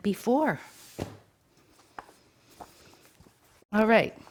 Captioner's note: woven fabric thuds